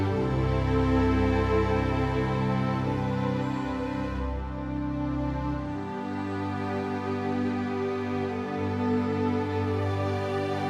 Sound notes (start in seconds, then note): none